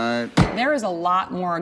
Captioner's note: gavel bangs